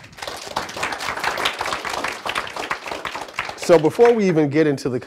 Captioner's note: audience applauding